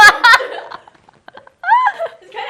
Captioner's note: laughs